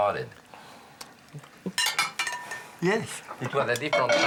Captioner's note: Julia laughs